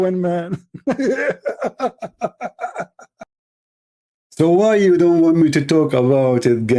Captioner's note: Ketawa